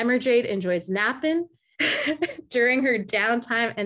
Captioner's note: laughing